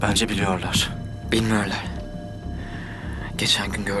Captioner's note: men speak turkish nearby